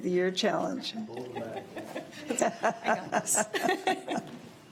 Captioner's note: laughs